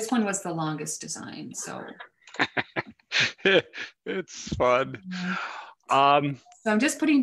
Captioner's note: laughs